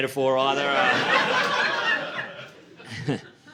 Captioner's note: laughter